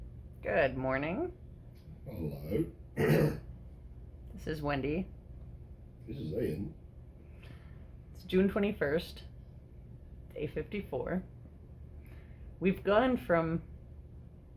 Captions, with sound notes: Good morning. Hello. [Clears throat] This is Wendy. This is Ian. It's June 21st, day 54. We've gone from